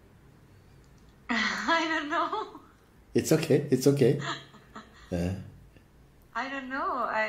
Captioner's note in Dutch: lacht